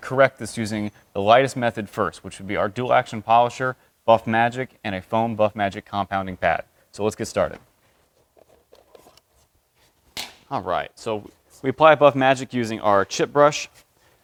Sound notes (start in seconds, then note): 8.3 container opening